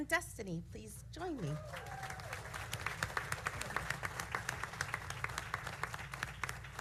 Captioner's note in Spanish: aplausos